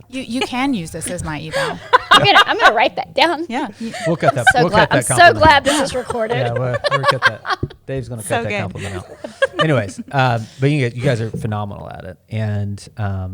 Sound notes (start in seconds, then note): 1.0 laughs